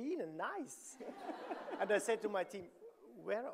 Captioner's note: audience laughing